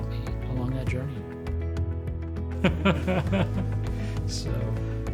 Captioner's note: laughs